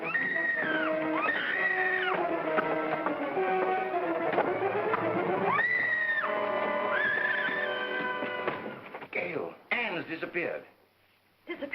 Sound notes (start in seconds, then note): 0.0 Ann screaming; 0.1 sinister music; 5.4 Ann screams; 5.6 sinister music